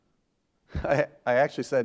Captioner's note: laughs